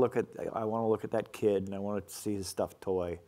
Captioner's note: none